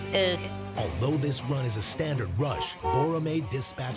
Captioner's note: car horn honks